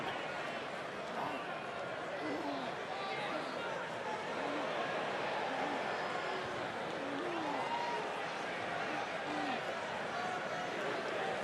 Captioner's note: crowd cheering